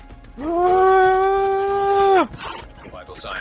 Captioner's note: screaming